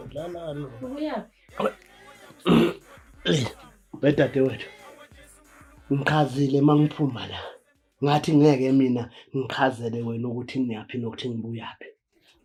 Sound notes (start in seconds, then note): 3.2 groaning